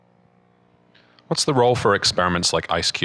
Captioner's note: voiceover